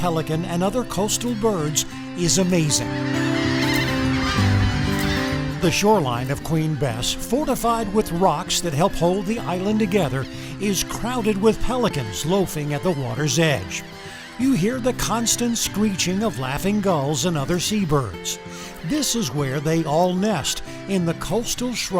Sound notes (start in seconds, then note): 2.3 brown pelicans squawking